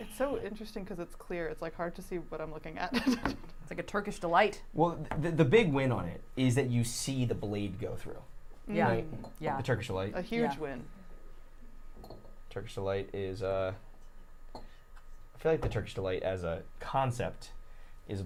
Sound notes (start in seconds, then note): 3.0 chuckles